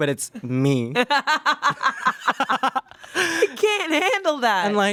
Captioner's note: everyone laughs